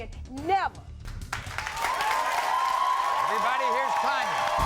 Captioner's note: applauding